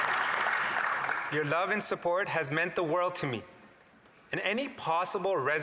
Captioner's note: applause